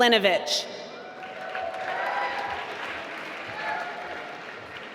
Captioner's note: applause